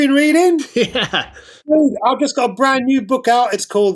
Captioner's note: laughter